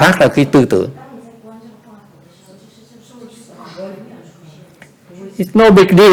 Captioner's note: background chattering